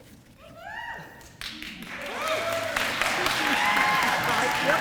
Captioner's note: audience applause